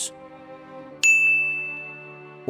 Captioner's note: dinging